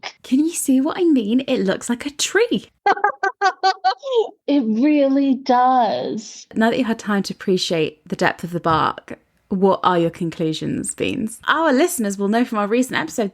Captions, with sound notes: - Can you see what I mean? It looks like a tree. (laughs) - It really does. - Now that you've had time to appreciate the depth of the bark, what are your conclusions, Beans? Our listeners will know from our recent episode